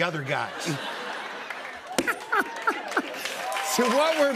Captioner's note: laughter